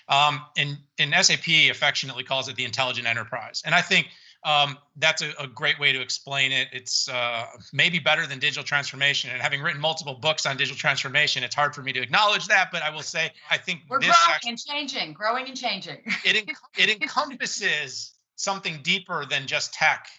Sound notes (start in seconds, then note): 16.0 chuckles